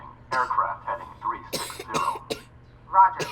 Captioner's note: Jeremiah coughs; coughing continues